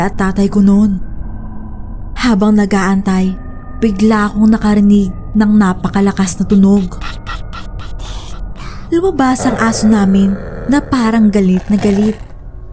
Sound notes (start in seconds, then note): 7.0 tik tik tik tik